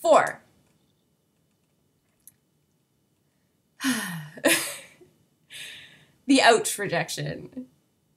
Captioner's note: sigh